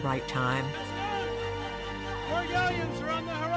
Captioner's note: shouts